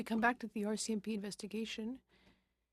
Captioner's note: speaking French